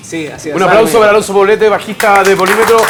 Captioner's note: applause